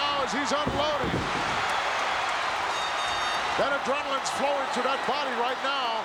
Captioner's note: applause